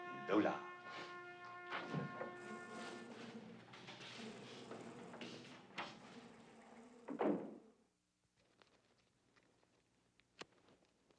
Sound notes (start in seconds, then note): 2.3 machinery buzzing